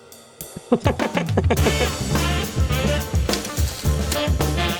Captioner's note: jazzy music; Harrison laughs